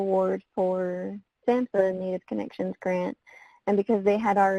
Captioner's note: voice muffled